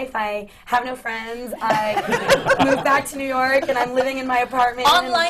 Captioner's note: laughter